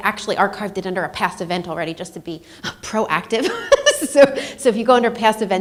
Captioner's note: laughs